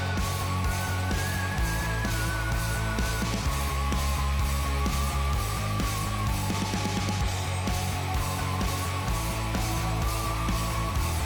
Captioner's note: engine Noise